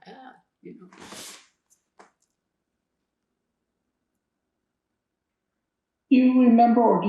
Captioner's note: pauses 4 seconds